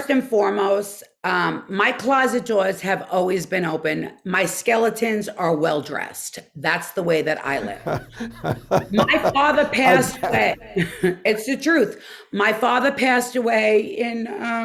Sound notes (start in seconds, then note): 7.5 Dr. Andrew Ordon laughs